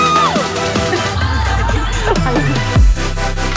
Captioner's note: laughter